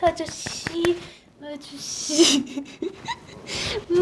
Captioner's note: laughs